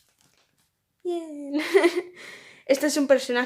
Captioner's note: laugh